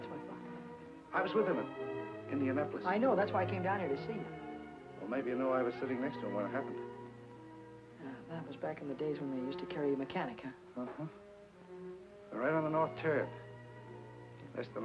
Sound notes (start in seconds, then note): none